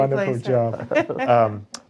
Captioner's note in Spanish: la risa